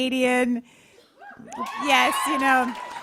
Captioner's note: cheers